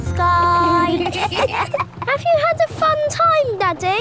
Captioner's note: kids giggling